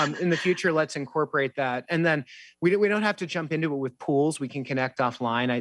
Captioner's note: laughter